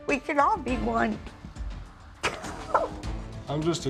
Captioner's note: sobs